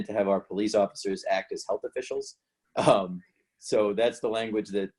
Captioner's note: chuckles